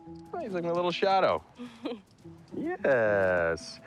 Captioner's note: chuckling